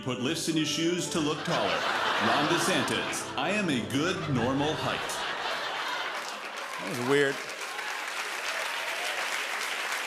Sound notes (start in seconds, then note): 5.1 laughter; 8.0 applause